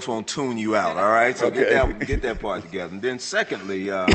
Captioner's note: laughter